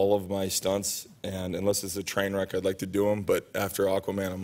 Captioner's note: none